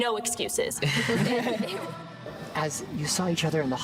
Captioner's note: group laughing